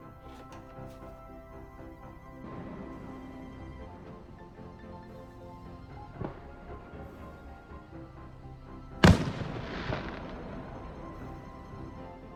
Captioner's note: fireworks